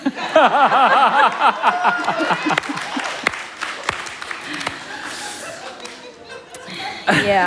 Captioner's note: laughter and Applause